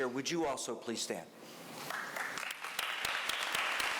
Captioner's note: applause